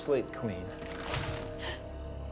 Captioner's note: creaking; gasping